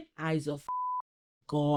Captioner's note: beep